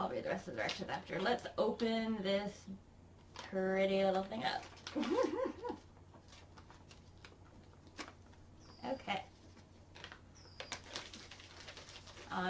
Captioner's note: giggles